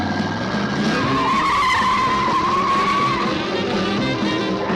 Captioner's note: engine revving; tires screeching; suspenseful music